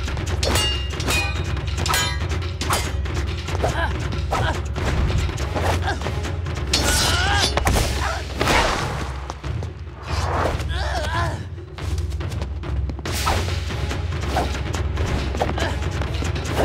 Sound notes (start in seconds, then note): 3.6 grunting